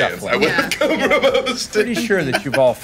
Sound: laughing

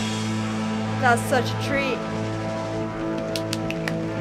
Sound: claps

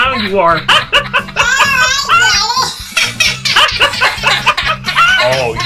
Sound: laughing; laughs; all laughing

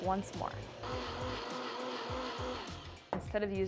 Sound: blender whirring

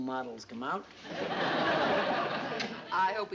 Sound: laughter

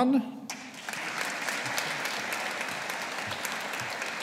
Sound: audience applauding

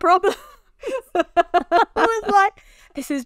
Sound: both laughing

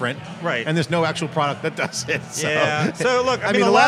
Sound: laughs

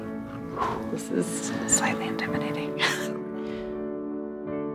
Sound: exhales; whispers

